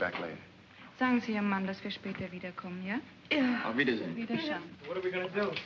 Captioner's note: speaking in German